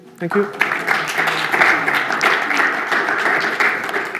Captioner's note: applause